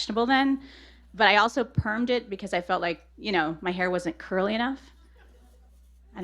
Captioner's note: laughter